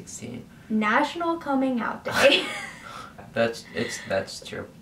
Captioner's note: laughs